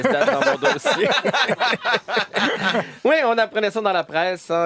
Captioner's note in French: rires